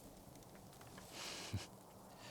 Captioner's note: laugh